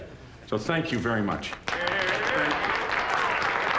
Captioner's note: cheers and applause